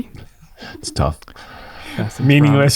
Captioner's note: chuckles